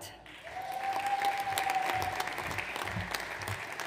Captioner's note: audience applauds